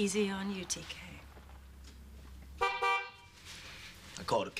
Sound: horn honks

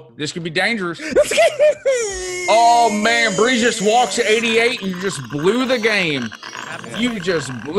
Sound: laugh

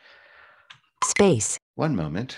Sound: automated Voice

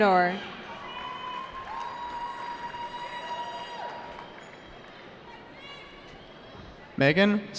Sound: cheering

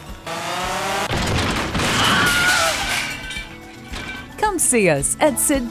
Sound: crashing sound

